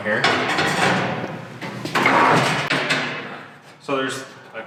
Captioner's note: metals clanging